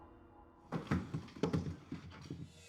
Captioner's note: apples thudding